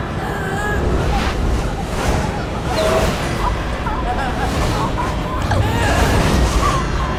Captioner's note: dramatic music; gasping